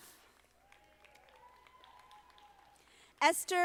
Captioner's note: audience applauding